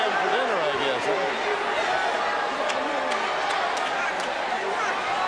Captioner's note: audience cheering